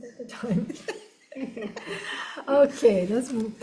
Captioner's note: everyone laughs